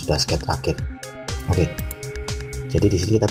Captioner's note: click